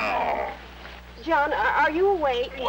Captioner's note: groaning